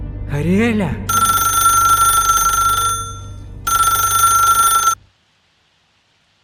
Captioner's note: the phone rings